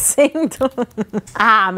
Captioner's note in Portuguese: risos